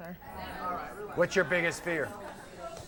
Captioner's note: audience murmurs